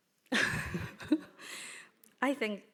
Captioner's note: laughing